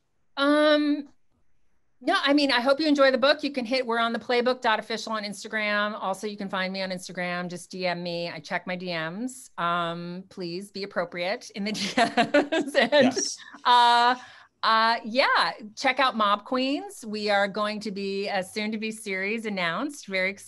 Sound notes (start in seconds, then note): 11.8 laughs